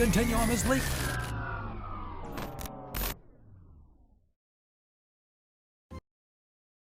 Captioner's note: whine of an engine powering down